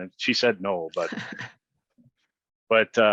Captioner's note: laughs